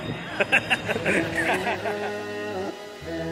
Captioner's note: laughs